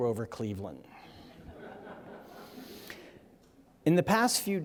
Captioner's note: audience chuckling